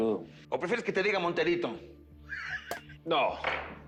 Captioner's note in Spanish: Ríe